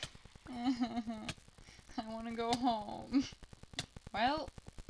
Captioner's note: fake crying